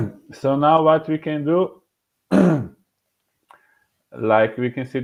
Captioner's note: clearing throat